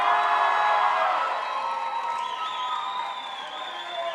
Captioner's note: crowd applauds